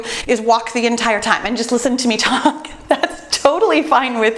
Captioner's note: laughs